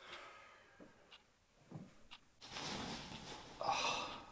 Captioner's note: clock ticking; Gary sighing